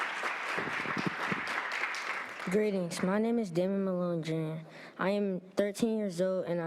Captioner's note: applause